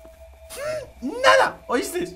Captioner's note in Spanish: Enojado